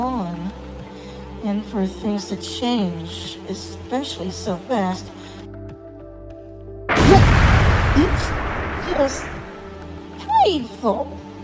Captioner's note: blast/yelp; thud